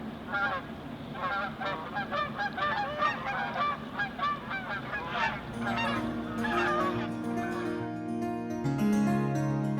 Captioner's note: geese honking